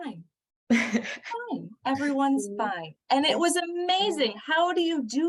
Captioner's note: laughter